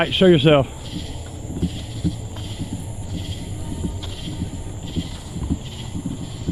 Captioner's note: crickets chirping; eerie music